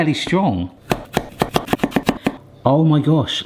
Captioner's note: person chopping